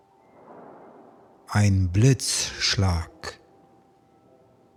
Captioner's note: german